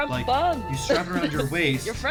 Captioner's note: laughs